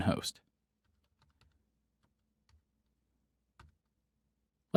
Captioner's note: typing